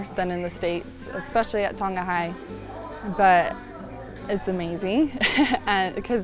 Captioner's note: laughs